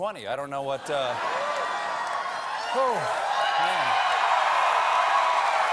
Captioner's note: cheers and applause